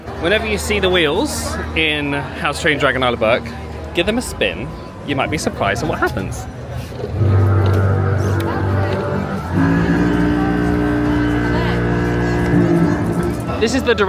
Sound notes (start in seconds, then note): 7.0 low tone booms; 10.6 low tone booms again